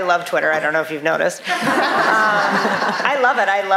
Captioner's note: laughter